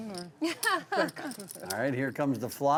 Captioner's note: laughing